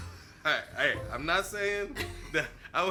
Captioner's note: laughs